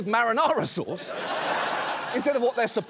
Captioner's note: audience laughs